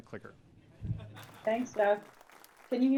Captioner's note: applause